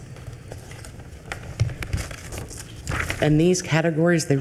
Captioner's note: paper shuffling